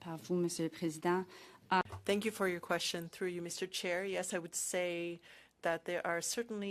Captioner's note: speaking French